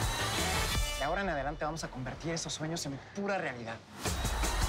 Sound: in Spanish

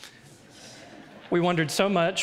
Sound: audience laughs

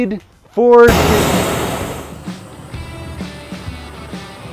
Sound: fire hissing; rock music

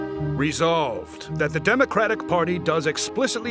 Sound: Democrat voice

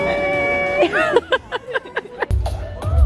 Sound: laughs

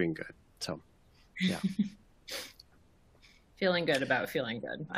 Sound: chuckles

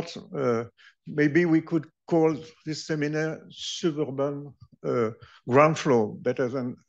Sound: speaking french

